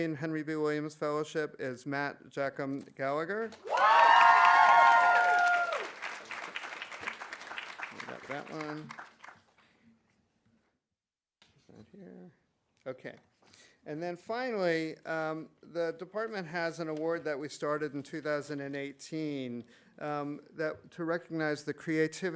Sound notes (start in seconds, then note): 3.5 audience applauding; 3.6 audience cheering